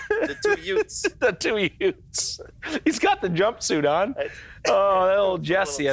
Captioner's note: laughs